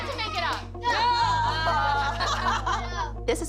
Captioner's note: laughter